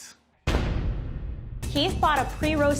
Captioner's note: dramatic crash